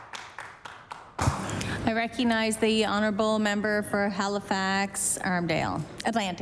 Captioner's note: applause